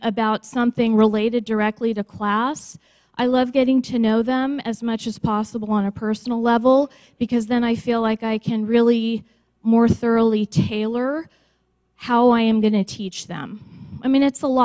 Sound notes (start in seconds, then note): none